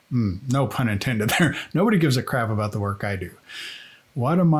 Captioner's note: laughing